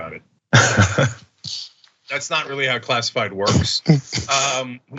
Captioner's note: laugh